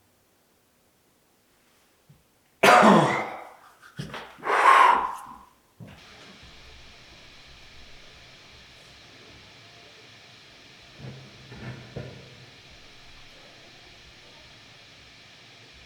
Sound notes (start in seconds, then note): 2.6 Jacob coughs; 6.2 static hissing